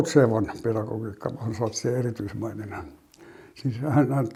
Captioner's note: in Finnish